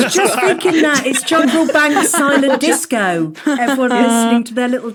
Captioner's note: group laughing